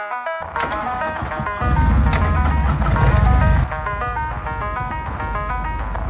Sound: electric guitar playing; engine revving

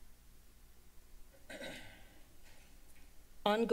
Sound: clears throat

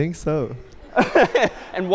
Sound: laughter

